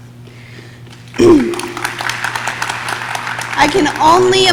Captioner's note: audience claps